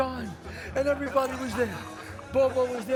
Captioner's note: indistinct chatter